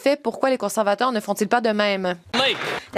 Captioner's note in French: voix de l'interprète